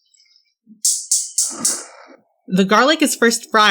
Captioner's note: sound of the stove turning on